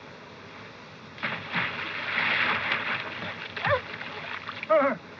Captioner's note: water splashing